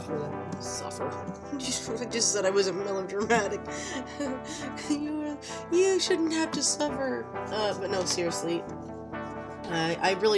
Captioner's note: laughing; laughs